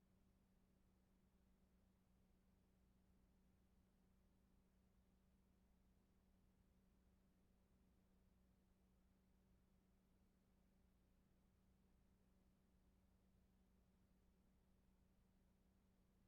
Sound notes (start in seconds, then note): none